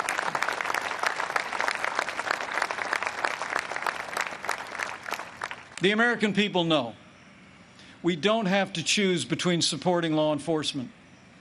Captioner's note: applause